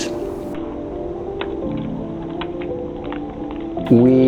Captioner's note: ice pick clanking